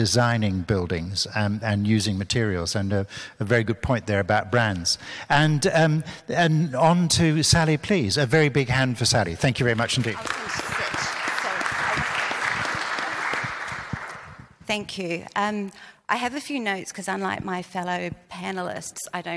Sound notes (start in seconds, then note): 9.6 audience claps